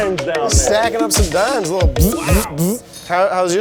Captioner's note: buzzes